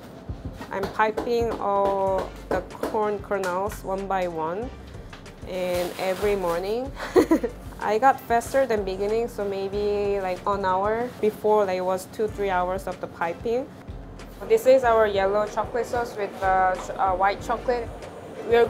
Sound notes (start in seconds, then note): 7.0 laughs